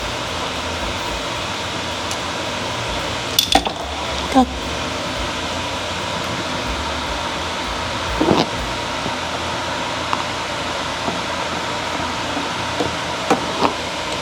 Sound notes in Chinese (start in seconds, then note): 3.3 咚~